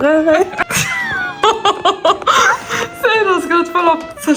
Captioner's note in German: gelächter